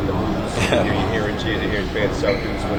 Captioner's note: laugh